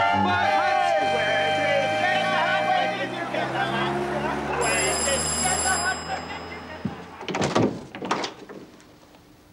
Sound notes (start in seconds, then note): 4.6 doorbell